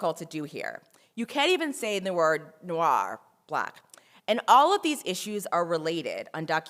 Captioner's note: french